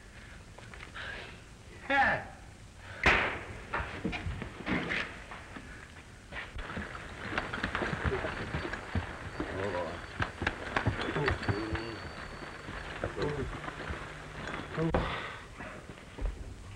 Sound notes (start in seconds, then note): 3.0 slap